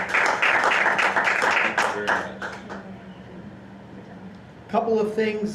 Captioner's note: applause